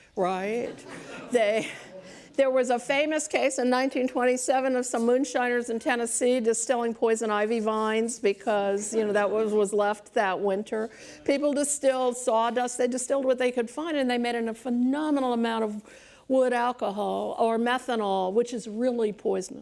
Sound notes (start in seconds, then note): 2.8 laughs